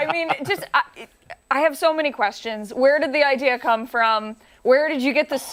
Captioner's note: laughter